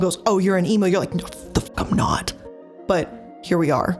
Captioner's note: iilluminaughtii blabbering